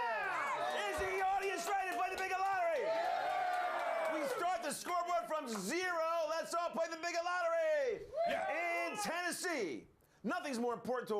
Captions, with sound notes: PANEL READY TO PLAY THE BIGOT LOTTERY? - YEAH! - IS THE AUDIENCE READY TO PLAY THE BIGOT LOTTERY? [AUDIENCE CHEERING] - WE START THE SCOREBOARD FROM ZERO. LET'S ALL PLAY THE BIGOT LOTTERY!